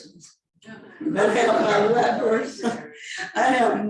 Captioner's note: laughing